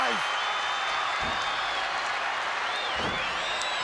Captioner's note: crowd cheers